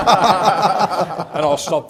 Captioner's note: laughter